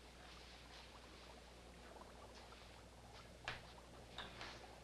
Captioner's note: liquid bubbling